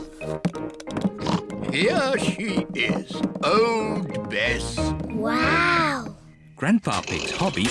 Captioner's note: oinks